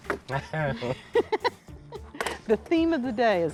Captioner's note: both chuckle